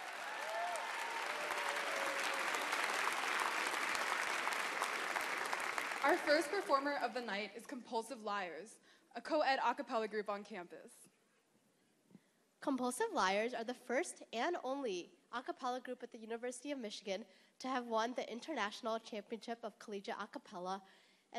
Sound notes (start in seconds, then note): 7.2 applause